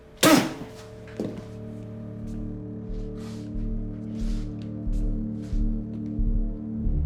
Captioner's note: low tense music continues; Chickie spitting; chair thudding; feet shuffling